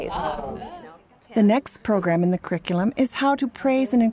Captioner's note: voiceover